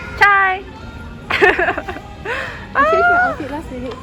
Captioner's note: laughter